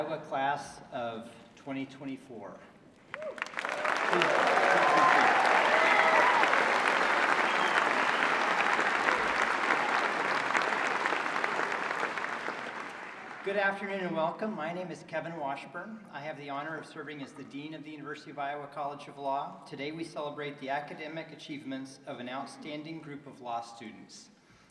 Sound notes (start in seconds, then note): 11.7 applause